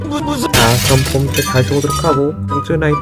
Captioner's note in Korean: 쨍그랑